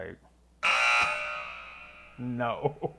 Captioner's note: buzzer